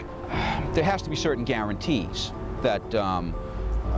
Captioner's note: sigh